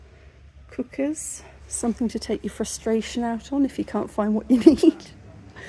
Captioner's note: laughing